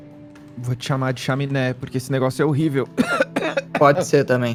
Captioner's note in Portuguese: tosse